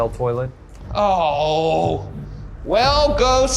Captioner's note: groaning